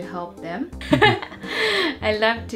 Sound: laughs

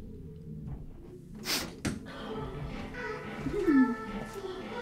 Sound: snorts

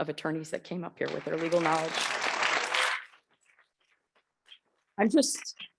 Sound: audience clapping

